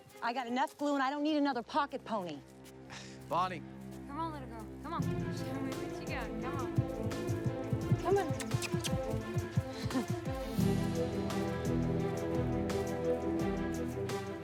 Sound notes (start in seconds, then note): 8.1 lips kissing; 11.3 expectant music